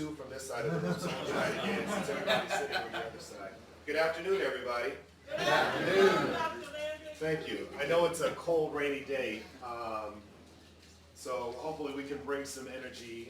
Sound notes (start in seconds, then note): 0.6 audience laughing